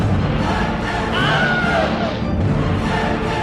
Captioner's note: Wilhelm Scream